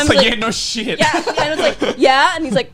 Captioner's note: laughs